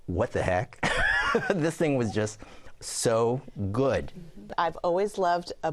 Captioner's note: laughs